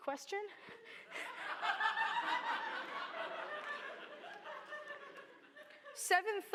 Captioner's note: laughter